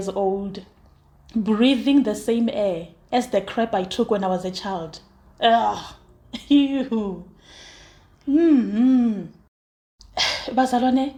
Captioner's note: disgusted noises